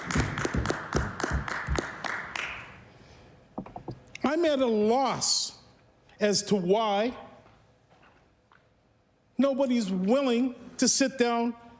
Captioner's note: applause